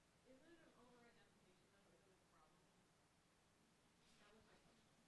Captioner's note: speaking softly